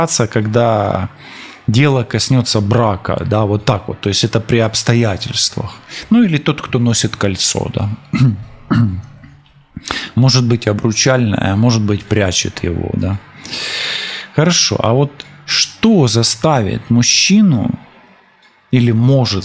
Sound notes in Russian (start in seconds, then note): 7.9 кашель; 8.1 откашливается